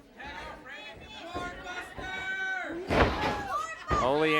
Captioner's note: audience hollers